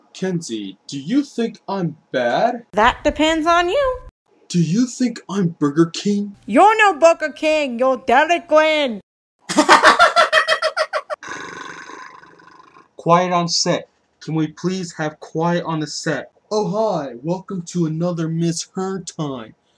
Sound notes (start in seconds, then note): 9.5 laughs Awkwardly